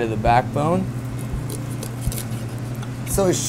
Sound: bone crunches

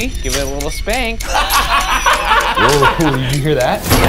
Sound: laughing

